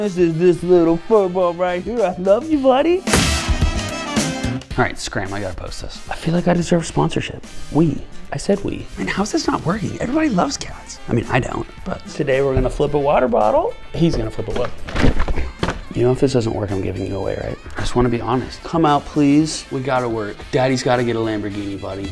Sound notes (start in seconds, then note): 3.1 thud; 15.0 sloshing